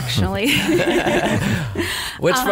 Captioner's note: laughs